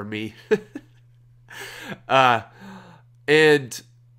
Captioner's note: laughs